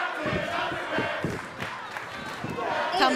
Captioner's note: fans chanting